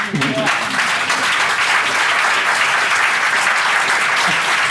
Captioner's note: audience clapping